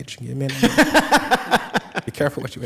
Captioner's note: laughing